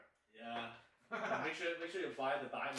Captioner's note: laughing